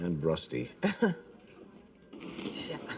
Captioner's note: she laughs